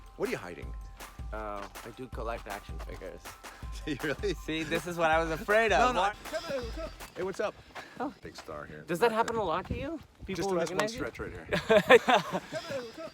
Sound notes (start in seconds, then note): 5.2 laughing; 11.4 Kumail laughing